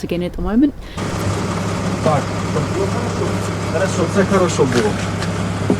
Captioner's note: speaking in foreign language